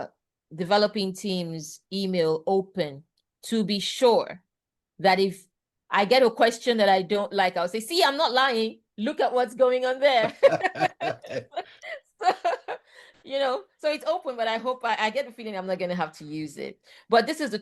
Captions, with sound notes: developing team's email open to be sure that if I get a question that I don't like, I'll say, "See? I'm not lying. Look at what's going on there." -[laughs] -[laughs] So it's open, but I get the feeling I'm not going to have to use it. But this is